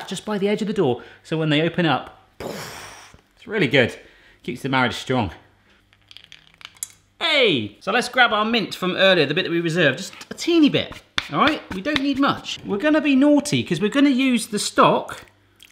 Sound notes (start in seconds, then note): 6.0 frozen pea clunks in pan